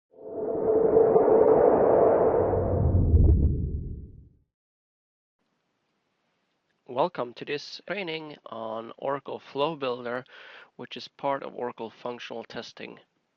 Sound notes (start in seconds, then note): 1.8 sound effect--swoosh